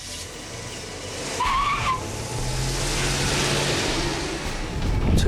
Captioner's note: tires peeling out